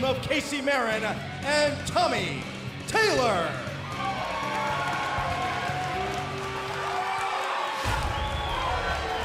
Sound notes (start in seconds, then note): 3.6 crowd cheering